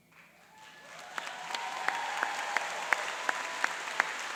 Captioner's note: applauding and cheering